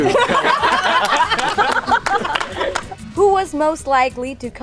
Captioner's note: all laugh